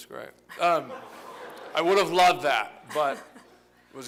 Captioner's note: laughter